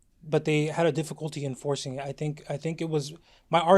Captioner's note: none